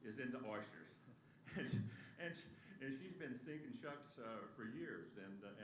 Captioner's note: laughter